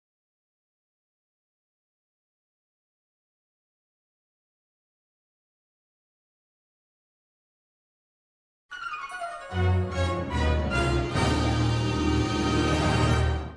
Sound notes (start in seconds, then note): 0.7 silence; 8.7 orchestral music resuming to the tune